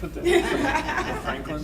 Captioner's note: panel laughing